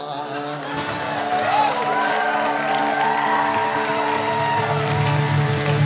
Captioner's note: cheering and applause